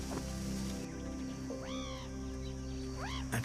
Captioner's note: distant chirp